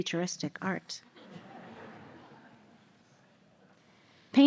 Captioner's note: audience laughter